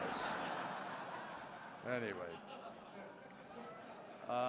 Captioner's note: laughter